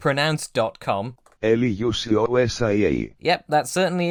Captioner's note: synthesised voice with Greek accent